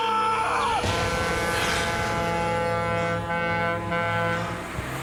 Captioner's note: truck horn blares